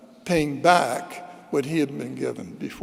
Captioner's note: none